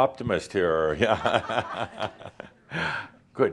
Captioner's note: chuckles